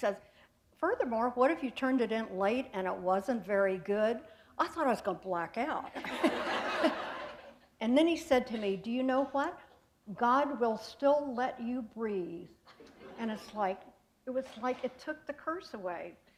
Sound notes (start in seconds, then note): 5.9 laughter